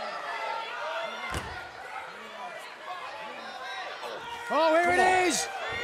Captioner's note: cheers and applause